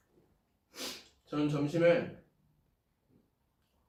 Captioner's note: sniff